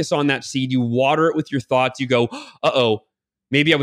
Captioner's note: gasps